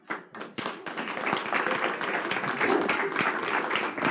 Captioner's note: applause